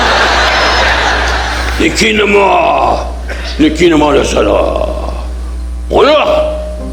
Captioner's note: audience laughing; Don imitating Japanese language; pianist playing quietly